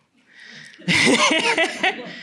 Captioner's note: laughter